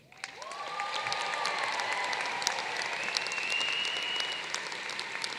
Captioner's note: applause